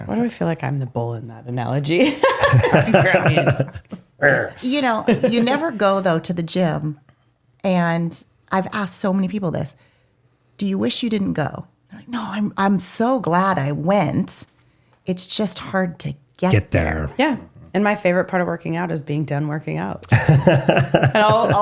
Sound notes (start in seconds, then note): 2.0 both laughing; 20.0 both laughing